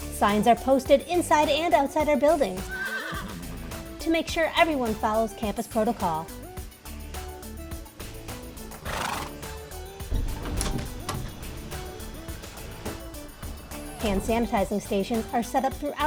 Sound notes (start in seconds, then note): 2.6 horse neighs; 8.0 horse snorts